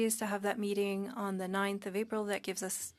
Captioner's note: speaking French